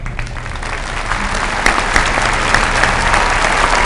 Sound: applause

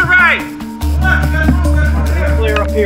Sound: shouting

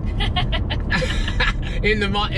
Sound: laughing

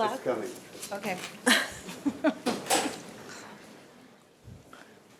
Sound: laughs

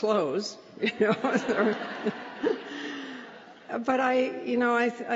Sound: laughter

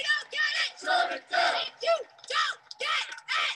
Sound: crowd

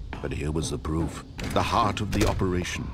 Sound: door closes

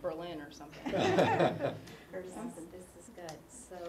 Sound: laugh

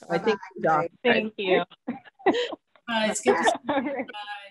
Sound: all laughing

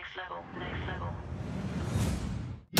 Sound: whoosh

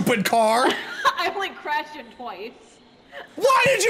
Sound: laughs

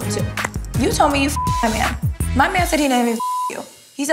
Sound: beep

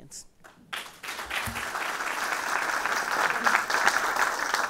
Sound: audience applauding

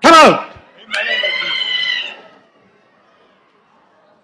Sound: woman screams

